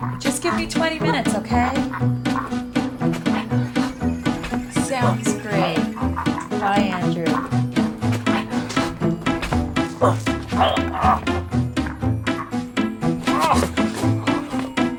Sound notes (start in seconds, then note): 1.9 Farance gasps; 7.5 Farance gasps; 13.1 grunts